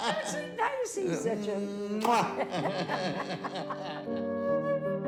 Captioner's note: laughs; laughs